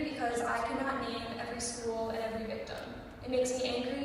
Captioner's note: rude classmates whispering